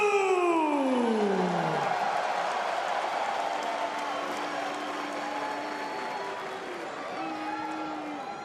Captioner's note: crowd cheering